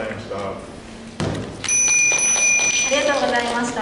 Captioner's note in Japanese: 終了のベルの音